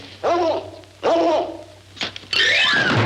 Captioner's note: dogs barking; playful music